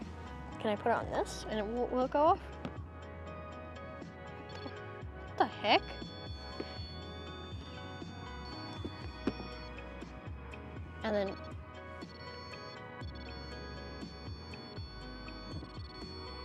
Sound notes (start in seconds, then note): 3.8 REM-Pod only briefly sounds; 5.5 REM-Pod sounds as it is handled; 7.5 REM-Pod constant tone; 12.0 REM-Pod sounds with lights